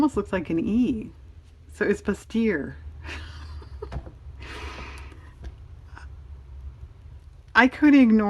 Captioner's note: laughs